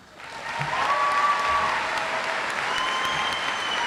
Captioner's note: audience applauds